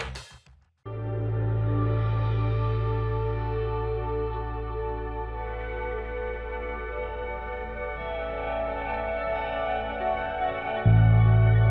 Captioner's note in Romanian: Aplauze